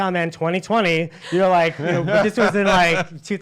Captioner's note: laughs